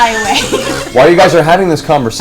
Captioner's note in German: Gelächter